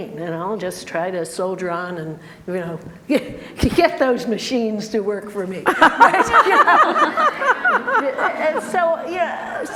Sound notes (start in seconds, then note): 5.6 group laughter